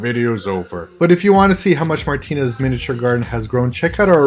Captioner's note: normal voice